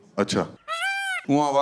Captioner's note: peacock sound